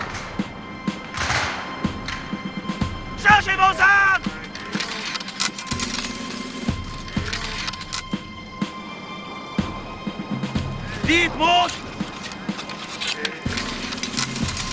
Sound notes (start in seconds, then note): 2.8 commander shouts orders in French; 4.4 firearms clack; 10.7 commander shouts orders in French